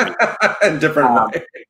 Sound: laughing

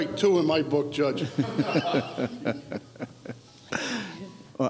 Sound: laughs

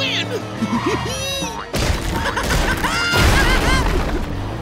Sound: laughing

